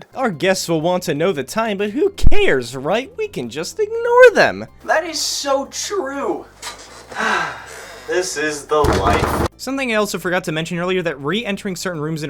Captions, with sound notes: "Our guests will want to know the time, but who cares right? We can just ignore them!" That is so true! Ahhhh, this, is the life~ *vigorous door knocking* Something I also forgot to mention earlier that re-entering certain rooms